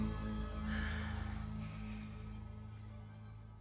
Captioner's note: exhales